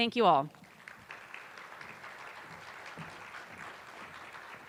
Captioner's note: attendees applauding